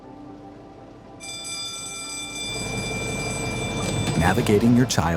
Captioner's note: school bell ringing